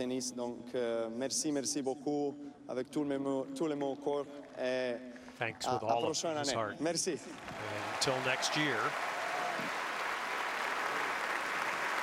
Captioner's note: speaking foreign language